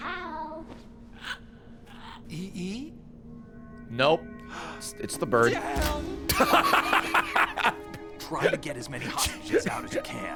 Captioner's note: laughs